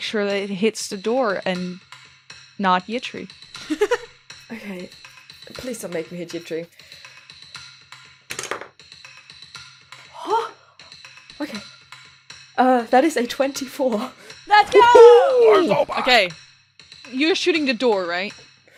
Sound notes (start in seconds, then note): 3.6 laughs; 8.3 dice clacks; 9.1 gasps